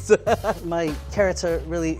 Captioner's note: laughs